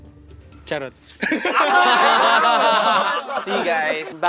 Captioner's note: laughter